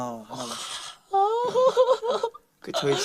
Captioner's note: crying sound